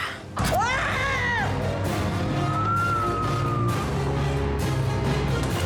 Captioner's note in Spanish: alarido